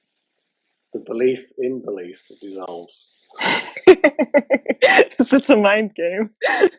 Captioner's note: laughter